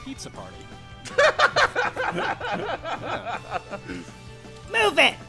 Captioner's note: laughing